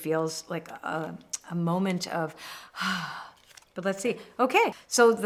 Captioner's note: exhales